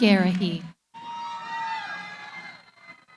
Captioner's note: cheering